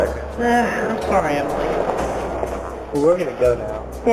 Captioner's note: sigh